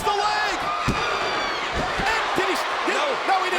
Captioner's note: hand pounding